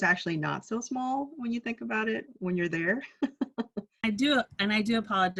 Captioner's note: laughs